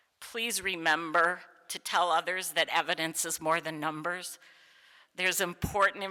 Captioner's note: none